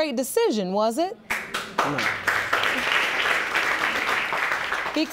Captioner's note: audience applauding